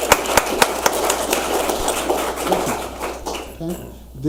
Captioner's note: audience applauds